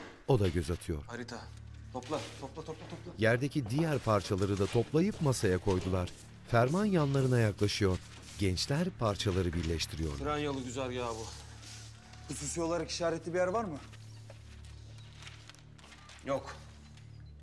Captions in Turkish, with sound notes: Harita. Topla, topla, topla! (Kâğıt sesi) Tren yolu güzergâhı bu. Hususi olarak işaretli bir yer var mı? Yok!